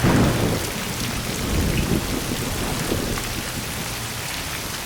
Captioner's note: thunder